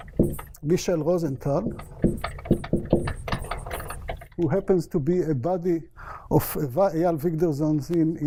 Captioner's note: non-english